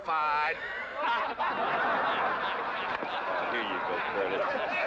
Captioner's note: crowd laughing